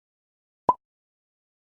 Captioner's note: blop